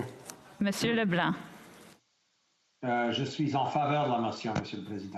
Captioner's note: speaking French